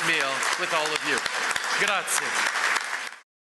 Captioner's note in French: Applaudissements